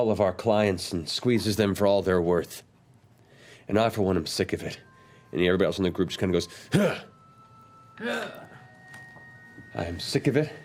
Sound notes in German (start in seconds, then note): 6.7 Grunzen; 8.0 grunzt